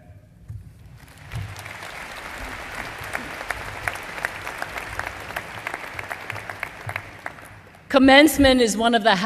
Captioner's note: applause